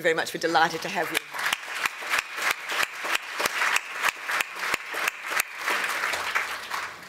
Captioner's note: applause